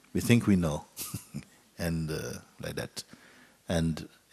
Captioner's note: Mooji chuckles